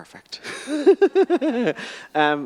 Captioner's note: laughing